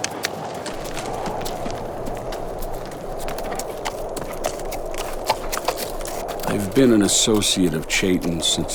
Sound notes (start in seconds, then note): 3.3 hooves clapping